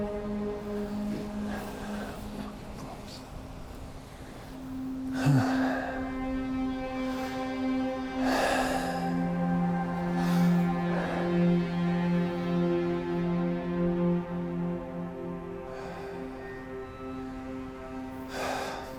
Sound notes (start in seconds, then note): 5.2 Adrian sighs